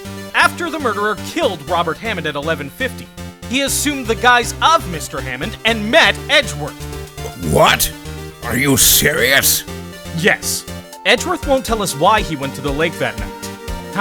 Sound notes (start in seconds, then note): none